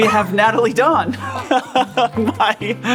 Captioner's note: laughs